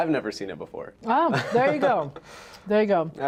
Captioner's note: laughs